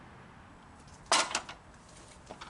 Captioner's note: clang